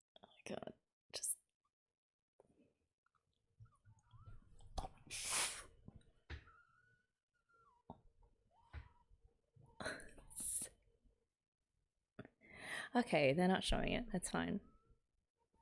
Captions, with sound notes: Oh god, just - [muffled distress] Okay, they're not showing it. That's fine.